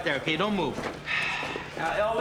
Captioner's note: Nash sighs